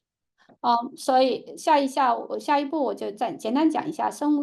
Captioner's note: speaking chinese